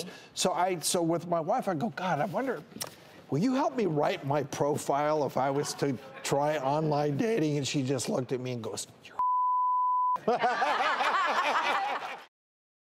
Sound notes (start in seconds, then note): 9.2 beep; 10.2 laughter